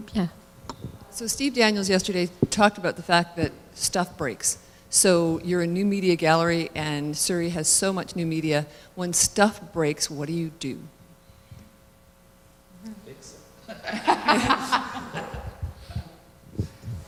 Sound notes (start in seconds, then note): 13.6 laughter